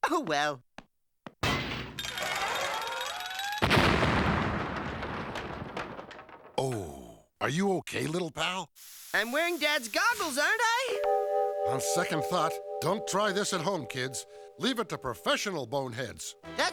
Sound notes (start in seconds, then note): 2.2 creak; 3.6 explosion